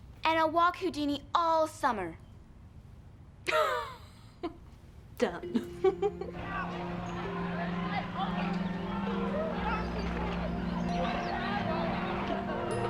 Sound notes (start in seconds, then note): 3.8 laughing; 6.3 people shouting